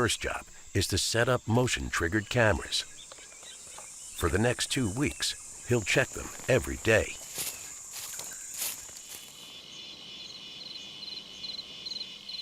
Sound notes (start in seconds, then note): 7.4 leaves crunching; 9.3 insects chirping